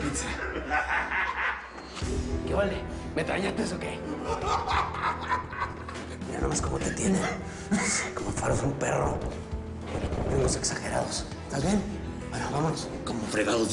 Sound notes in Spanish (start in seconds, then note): 0.1 Risas; 4.1 Carcajadas